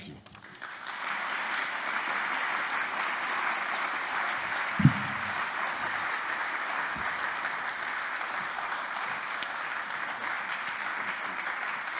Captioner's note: applause